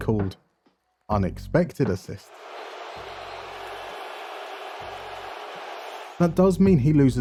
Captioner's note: crowd Boos